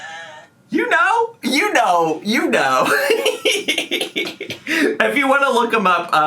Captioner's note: laughs